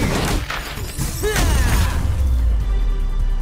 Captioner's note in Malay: berteriak